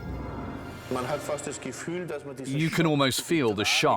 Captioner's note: speaking German